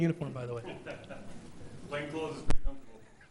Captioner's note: laughs